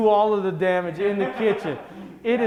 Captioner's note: laughing